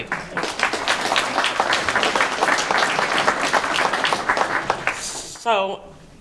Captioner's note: applause